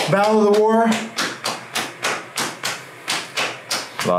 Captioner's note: slapping